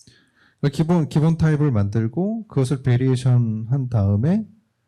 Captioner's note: speaking korean